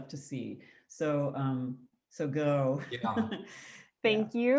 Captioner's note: laughs